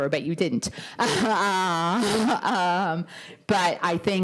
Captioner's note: laughter